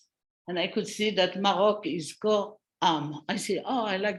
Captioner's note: non-english speech